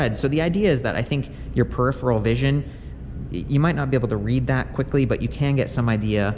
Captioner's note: none